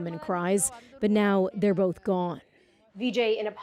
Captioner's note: speaking alternate language